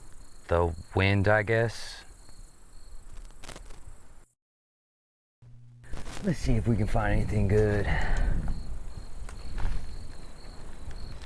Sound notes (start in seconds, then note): 2.2 insects chittering; 7.5 insects chittering; 11.0 branches clacking